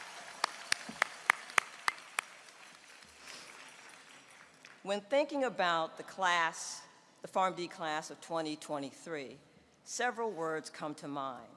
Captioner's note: applause